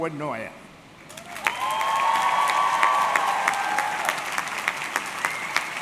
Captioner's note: audience cheering